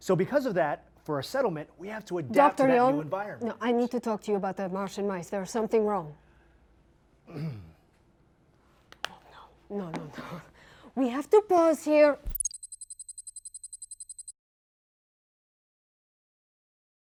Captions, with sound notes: Doctor Yeom-- No, I need to talk to you about the Martian mice. There is something wrong. ( clears throat ) ( whispering ) Oh, no. No, no, no. We have to pause here.